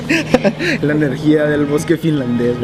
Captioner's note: laughs